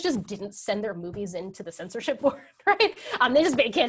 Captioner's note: laughs